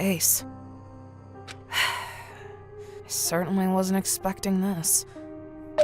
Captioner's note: sigh